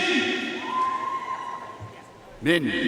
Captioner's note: audience cheering and applauding